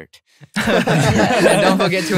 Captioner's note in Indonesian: tertawa